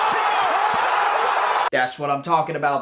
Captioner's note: cheering!!!